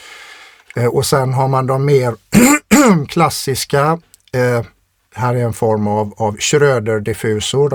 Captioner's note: clears throat